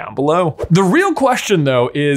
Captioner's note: screen fwipping